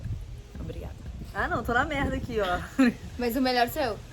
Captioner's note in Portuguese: laughing